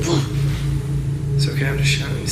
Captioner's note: gasping